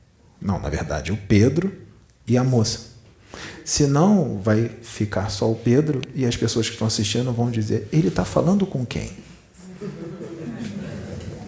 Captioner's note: laughs